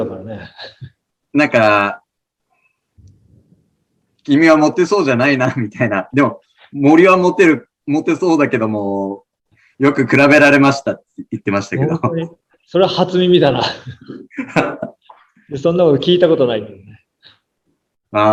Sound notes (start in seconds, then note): 13.6 laughs